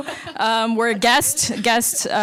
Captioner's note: laughing